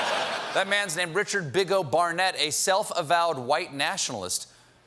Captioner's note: laughter